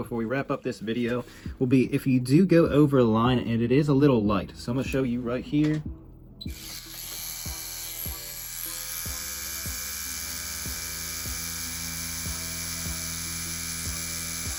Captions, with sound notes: before we wrap up this video will be if you do go over a line and it is a little light. So I'm gonna show you right here. (tattoo machine buzzing) (light music)